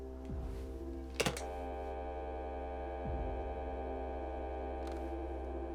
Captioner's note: hangs up